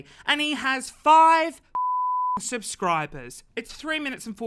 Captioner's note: beep